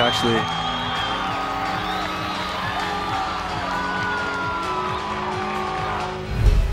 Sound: cheers continue

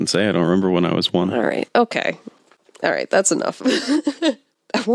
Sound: laughs

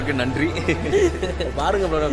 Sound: giggles

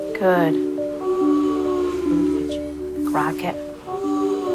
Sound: moaning

